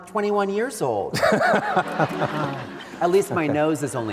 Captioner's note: laughs